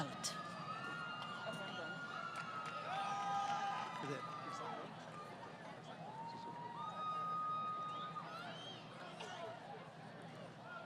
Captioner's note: crowd Cheering